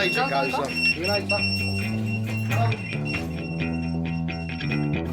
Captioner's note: pager beeping